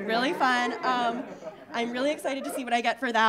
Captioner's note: audience laughing